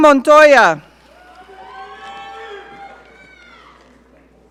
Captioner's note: audience cheering